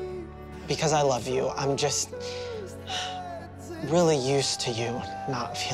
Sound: sighs

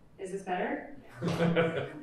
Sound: laughter

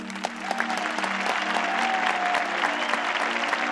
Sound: audience claps

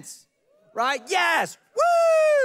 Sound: congregation members whooping

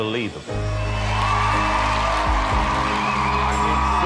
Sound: crowd cheering

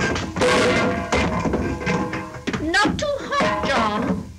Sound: buckets clattering

